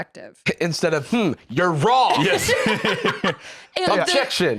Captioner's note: laughing